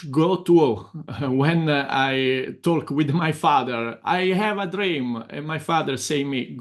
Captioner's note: chuckles